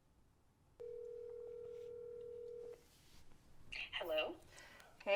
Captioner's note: phone rings